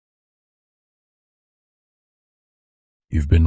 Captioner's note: soft voice